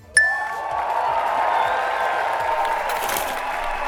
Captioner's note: applause